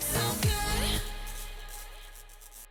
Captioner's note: electricity crackling